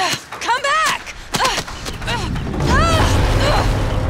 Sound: groaning

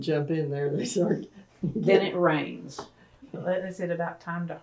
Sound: laughter

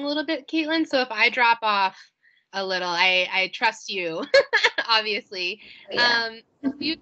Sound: laughs

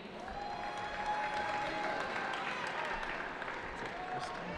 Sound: cheering

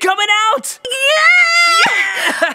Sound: yelling

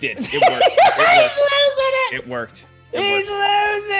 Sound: laugh

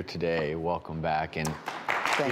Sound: audience applauding

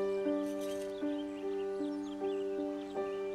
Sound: birds chirping

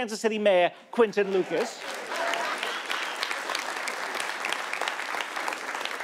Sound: audience applauding

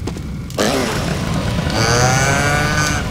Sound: motorcycle engine revs

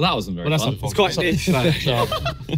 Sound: contestants muttering and laughing

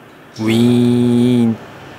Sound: doors opening

